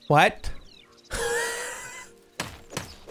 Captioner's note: laughs